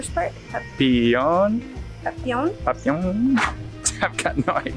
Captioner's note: speaks foreign language